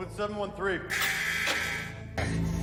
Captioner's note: buzzer & dooror opening